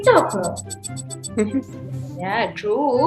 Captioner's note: laughs